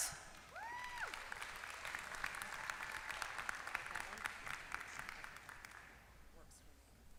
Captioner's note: applause